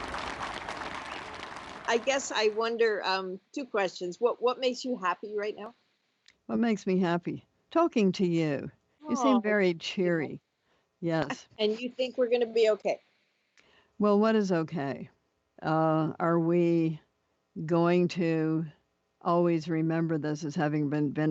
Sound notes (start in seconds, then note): 0.0 applause